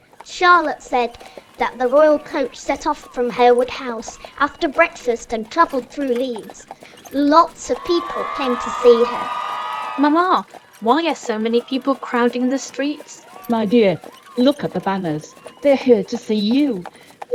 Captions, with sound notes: Charlotte said that the royal coach set off from Harewood House after breakfast and travelled through Leeds. Lots of people came to see her. [Cheering] Mama why are so many people crowding the streets? My dear- look at the banners! They're here to see you!